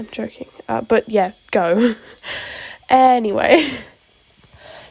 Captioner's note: soft chuckle